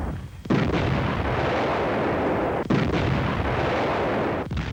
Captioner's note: explosions booming